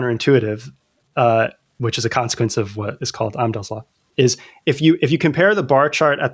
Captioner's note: uh